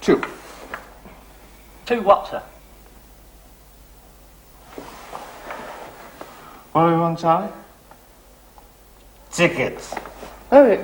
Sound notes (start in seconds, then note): 6.9 slurring